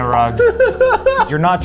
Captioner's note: laughing